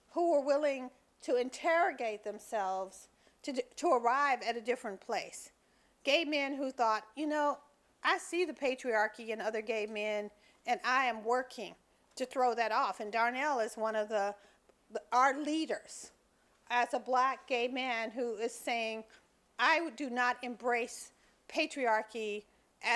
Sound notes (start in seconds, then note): none